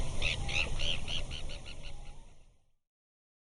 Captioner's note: bird tweeting